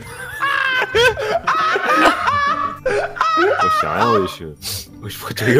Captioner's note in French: Rires